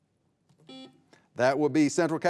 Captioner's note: buzzer buzzing